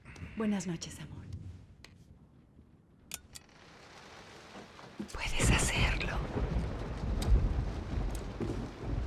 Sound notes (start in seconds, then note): 5.0 thunder